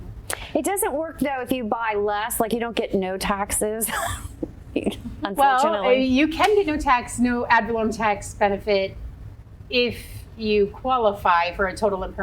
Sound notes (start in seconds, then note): 4.2 laughs